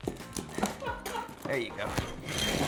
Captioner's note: laughs